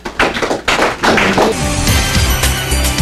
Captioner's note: applause